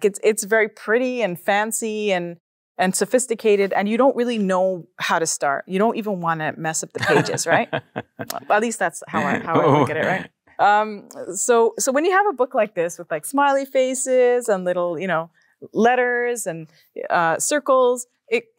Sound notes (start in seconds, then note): 7.0 laughs